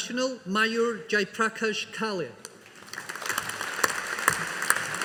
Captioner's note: audience applauding